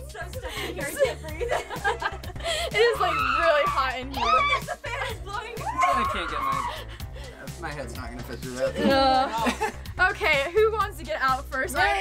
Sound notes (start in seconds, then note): 4.2 laughs